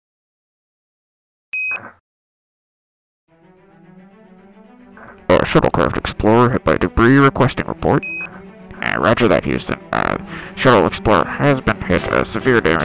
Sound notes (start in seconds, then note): 1.5 NASA beep